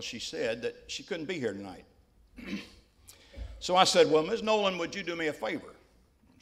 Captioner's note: clears throat